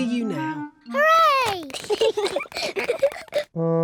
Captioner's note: both giggle